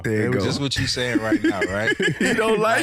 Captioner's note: laughing